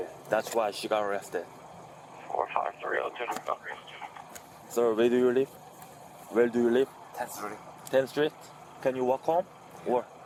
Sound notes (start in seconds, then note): 2.1 radio chatter